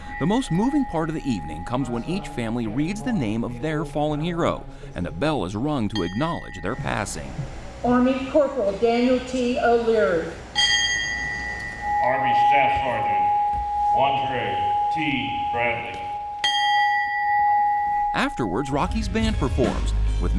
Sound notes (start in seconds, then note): 11.1 bell rings; 16.1 bell rings